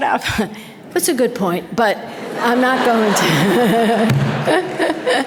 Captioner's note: audience laughter